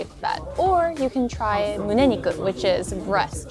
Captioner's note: speaks in foreign language